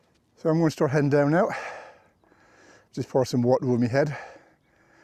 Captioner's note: gasps